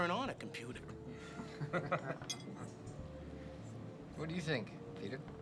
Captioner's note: laughing